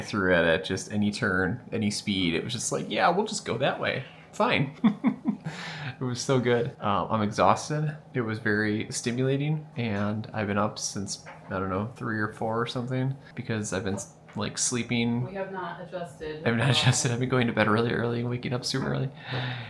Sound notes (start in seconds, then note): 5.2 laughs